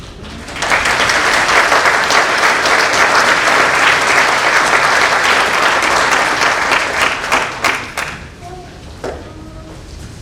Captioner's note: applause